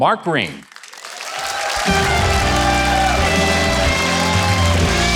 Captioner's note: audience cheering